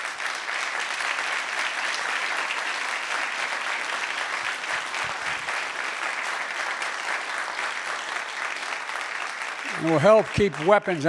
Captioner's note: applause